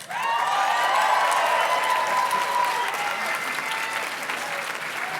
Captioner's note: audience cheers and claps